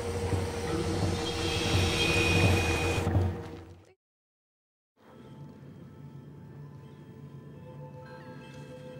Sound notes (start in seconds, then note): 1.2 insects screeching; 1.6 pounding music